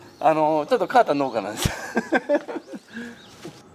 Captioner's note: laughs